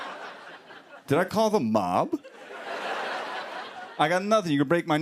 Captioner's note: laughter